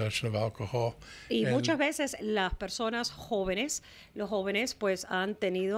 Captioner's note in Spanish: Hablando ingl\s